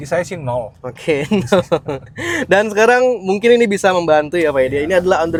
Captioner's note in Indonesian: tertawa